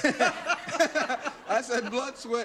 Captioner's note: laughter